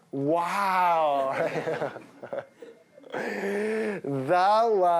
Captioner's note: laughter